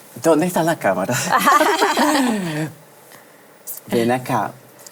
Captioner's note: risas